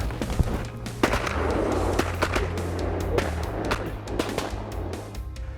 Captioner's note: gun shots